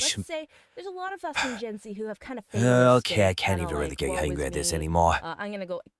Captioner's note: sigh